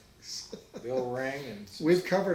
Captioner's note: laughs